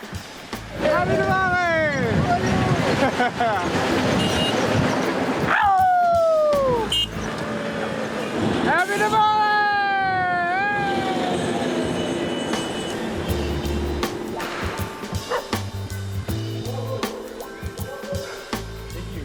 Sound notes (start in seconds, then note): 2.7 laughing; 6.8 horn beeping